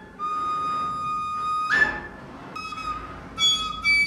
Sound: whistling

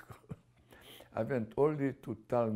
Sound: laughs

